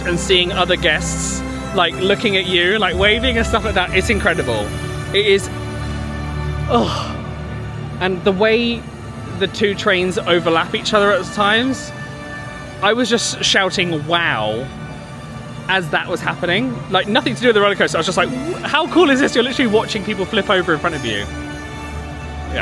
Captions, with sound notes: and seeing other guests, like, looking at you, like waving and stuff like that. It's incredible. It is (groans). And the way the two trains overlap each other at times, I was just shouting wow as that was happening. Like nothing to do with the rollercoaster, I was just like, how cool is this? You're literally watching people flip over in front of you.